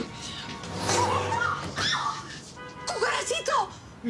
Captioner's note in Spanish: Gritos